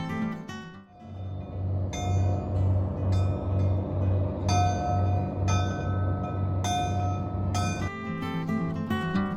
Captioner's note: bell_buoy_ringing